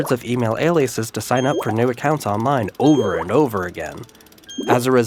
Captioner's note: beeping, bubbles “blooping”